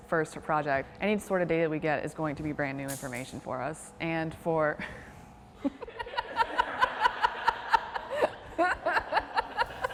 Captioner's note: laughter